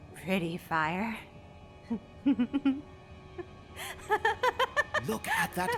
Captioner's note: worrying laughter